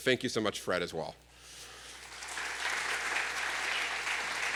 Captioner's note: applause